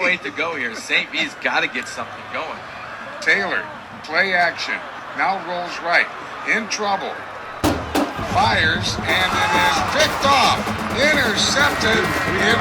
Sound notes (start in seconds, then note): 3.8 radio Announcer